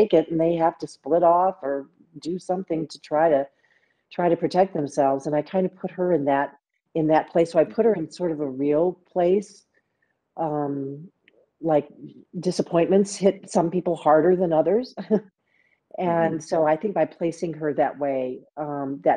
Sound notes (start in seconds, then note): 16.2 chuckles